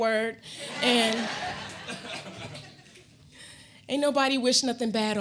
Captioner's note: audience laughing